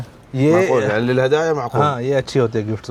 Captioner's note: Arabic